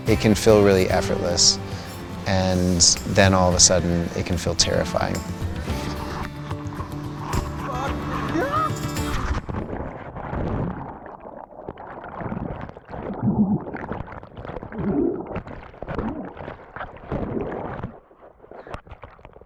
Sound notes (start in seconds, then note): 8.1 shouting